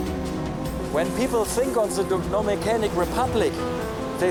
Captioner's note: speaking English